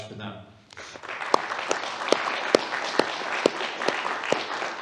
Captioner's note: applause